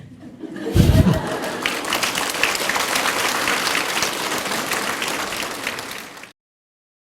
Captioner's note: audience Laughter/Applause